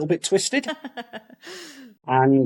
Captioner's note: laughs